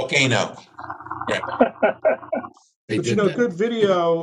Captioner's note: laughter